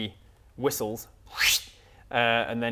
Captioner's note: whistles